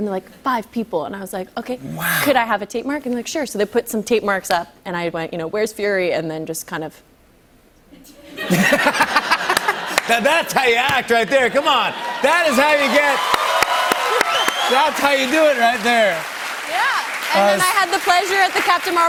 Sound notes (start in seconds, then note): 8.2 laughter; 12.8 cheers and applause